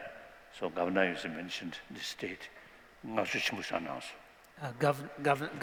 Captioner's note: non-english